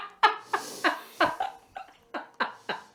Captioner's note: laughing